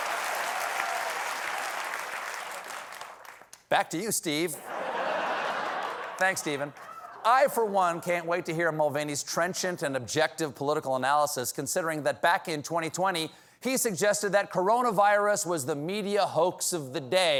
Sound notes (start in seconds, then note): 0.0 cheers and applause; 4.6 laughter